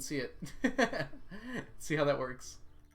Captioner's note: laughs